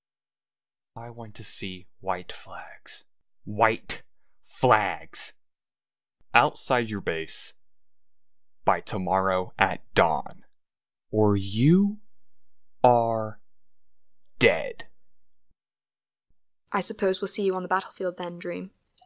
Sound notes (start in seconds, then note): 1.3 dangerously quiet; 6.5 aggressively